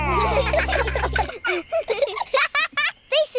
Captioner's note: children giggle